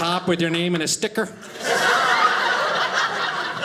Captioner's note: audience laughing